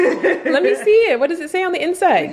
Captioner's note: laughing